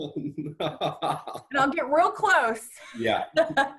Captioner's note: laughs